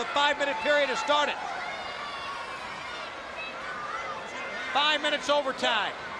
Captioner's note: crowd chatter